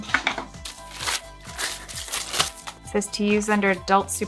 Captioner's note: paper whooshing